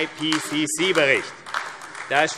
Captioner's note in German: Beifall AfD